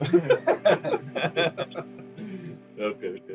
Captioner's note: Смех